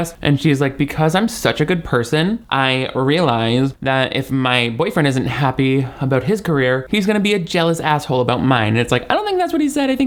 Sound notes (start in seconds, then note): none